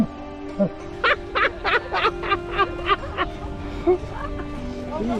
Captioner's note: laughter